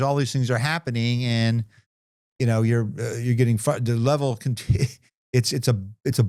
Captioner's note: chuckles